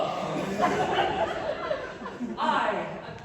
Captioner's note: laughter